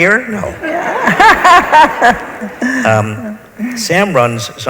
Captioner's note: laughs